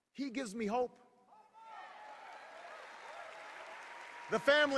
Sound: cheers

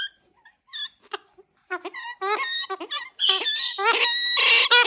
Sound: bird squawking

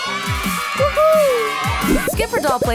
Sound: children cheering

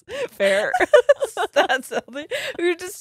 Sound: both laughing

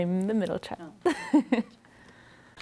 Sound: laughs

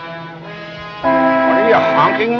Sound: horn honks

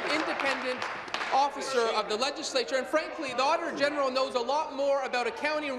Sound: applause

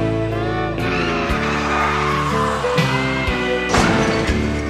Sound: tires squealing

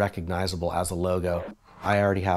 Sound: whooshing

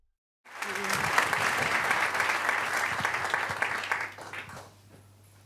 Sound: audience applauding

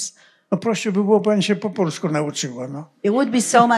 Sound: foreign language

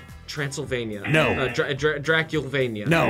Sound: buzzer; buzzer barks

